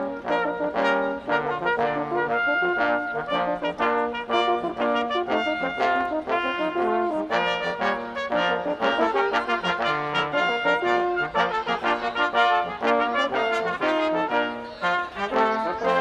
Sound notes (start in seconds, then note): none